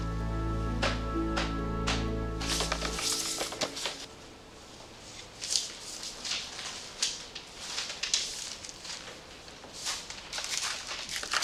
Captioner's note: footsteps approaching